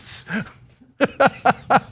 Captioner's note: laugh